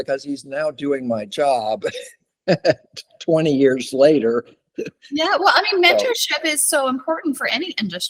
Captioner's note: laughter